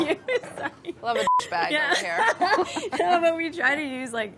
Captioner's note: laughing; beeping